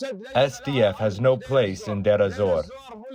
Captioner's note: through translator